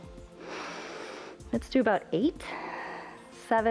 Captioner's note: inhales